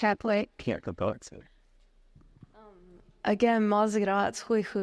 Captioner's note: audience members speaking foreign